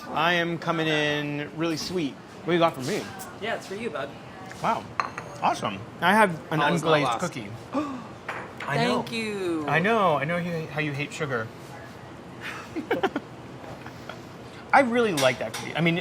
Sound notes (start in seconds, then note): 7.7 gasps; 12.4 laughing